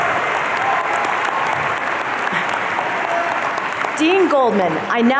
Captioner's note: audience applauding